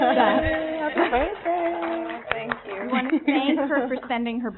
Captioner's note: muttering and applauding